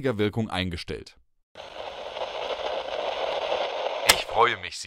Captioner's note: static noise